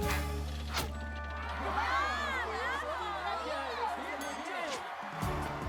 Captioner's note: cheers